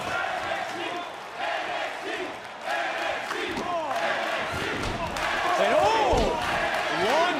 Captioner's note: crowd chants "nxt"